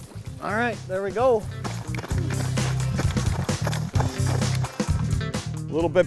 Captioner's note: running on snow